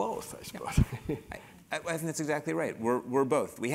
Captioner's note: laugh